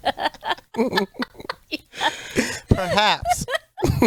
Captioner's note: group laughing